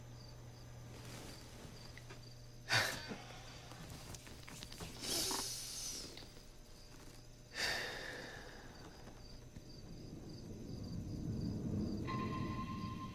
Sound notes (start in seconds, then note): 2.8 GUARD chuckles; 5.0 GUARD inhales deeply through his nose; 7.5 GUARD sighs